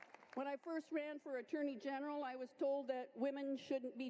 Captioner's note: applause